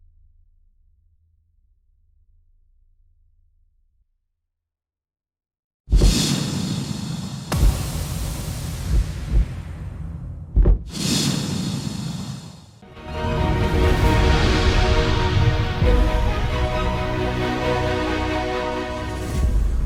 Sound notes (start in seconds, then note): 6.0 logo rumbling; 12.8 dramatic music